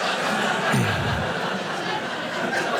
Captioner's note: audience laughing